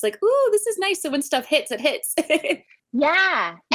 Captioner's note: laughs